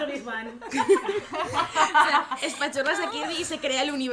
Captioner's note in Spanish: risas